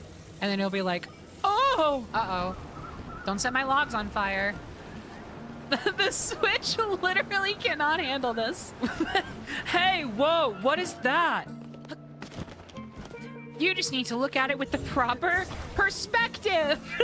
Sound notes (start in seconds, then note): 5.7 laughing; 8.8 laughter